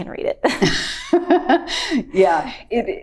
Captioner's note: both laughing